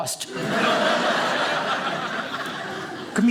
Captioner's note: audience laughing